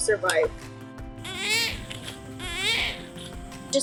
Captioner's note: baby crying